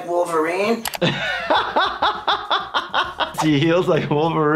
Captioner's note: laughing